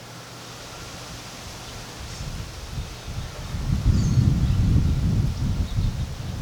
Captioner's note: trees softly rustling in the wind